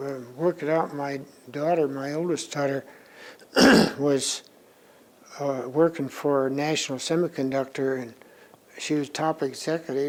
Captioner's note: clears throat